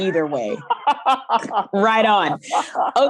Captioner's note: laughs